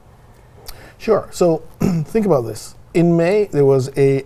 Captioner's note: clears throat